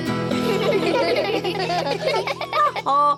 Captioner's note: all giggle